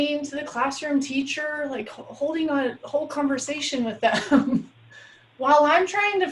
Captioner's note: chuckles